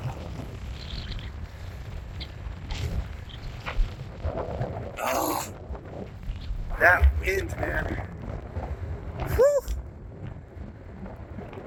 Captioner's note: strong wind gusting